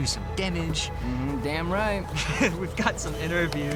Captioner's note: laughs